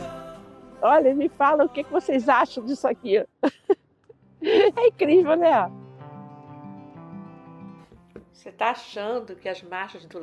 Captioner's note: laughs